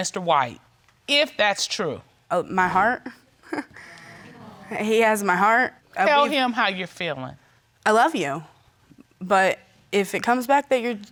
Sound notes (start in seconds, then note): 3.4 chuckles